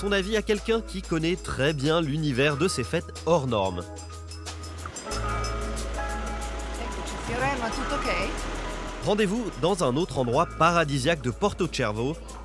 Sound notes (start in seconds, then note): 6.9 speaks in Italian